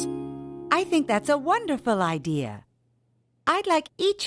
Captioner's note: none